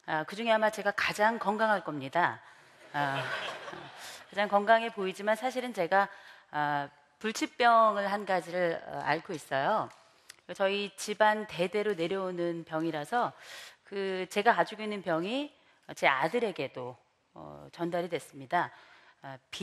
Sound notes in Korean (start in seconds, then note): 2.9 웃음